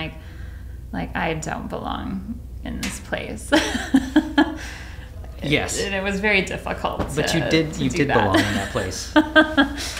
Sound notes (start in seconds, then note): 4.0 laughs